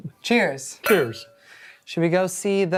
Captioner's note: glasses clink